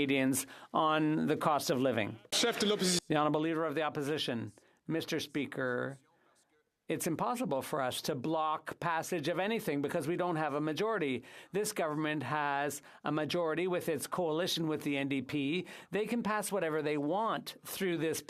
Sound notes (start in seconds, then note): none